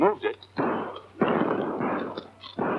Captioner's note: gunshots